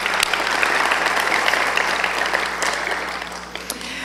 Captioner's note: applause